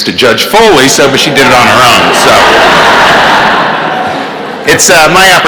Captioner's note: laughter